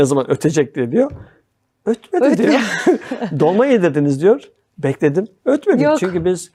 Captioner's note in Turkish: kahkaha